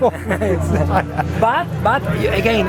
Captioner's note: laughs